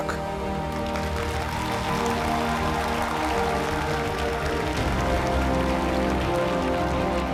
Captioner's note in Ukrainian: оплески